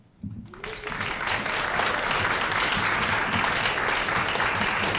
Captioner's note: applause